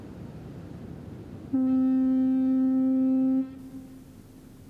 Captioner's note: horn blares